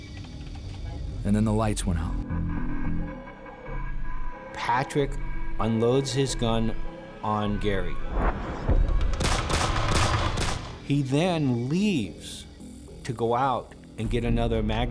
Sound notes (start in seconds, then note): 8.8 gunshots